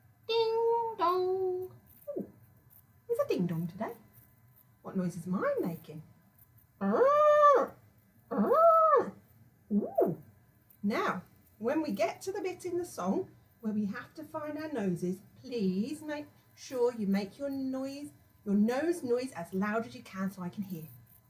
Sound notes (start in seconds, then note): 5.9 squawking